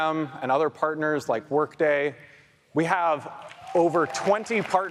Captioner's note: audience applauds